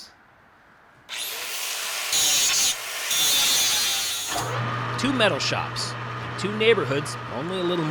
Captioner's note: tools whirring